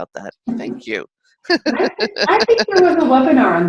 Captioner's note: chuckles